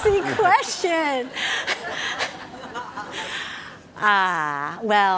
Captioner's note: audience laughing